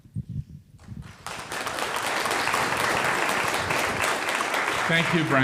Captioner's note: audience applauds